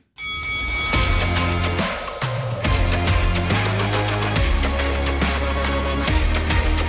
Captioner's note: bell rings; upbeat music